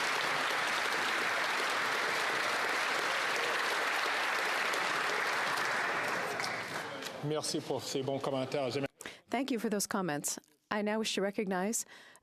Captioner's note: applause